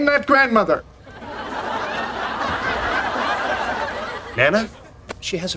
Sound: audience laughing

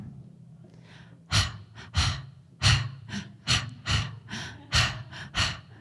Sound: rhythmic heavy breathing

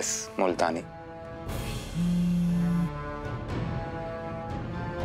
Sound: phone vibrating

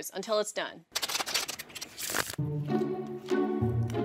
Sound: cards shuffling; mellow music

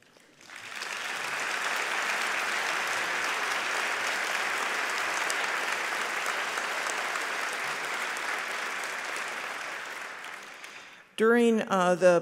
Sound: applause

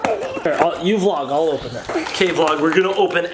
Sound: grunts

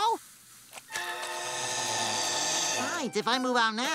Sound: hissing

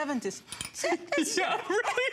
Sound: laughter

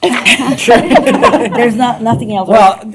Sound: laughter

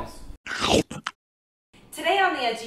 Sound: chomping

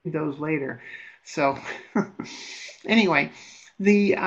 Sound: laughs

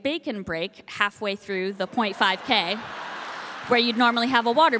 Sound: audience applauding

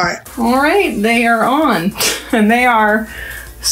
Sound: laughs

